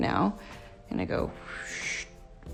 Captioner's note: whooshing